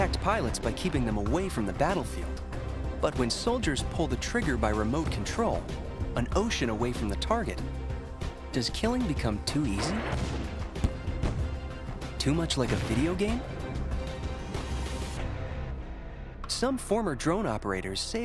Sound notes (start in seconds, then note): 12.4 explosions